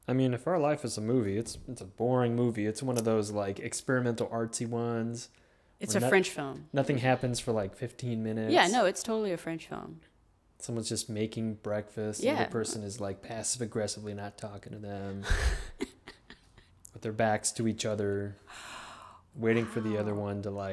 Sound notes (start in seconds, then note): 15.1 laughing